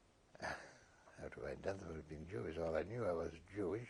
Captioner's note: laughs